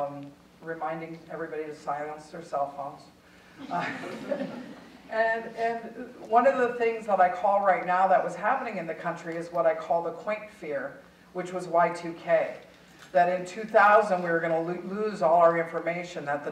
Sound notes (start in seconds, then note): 3.6 audience chuckling